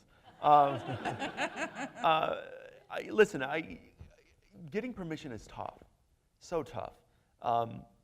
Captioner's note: laughter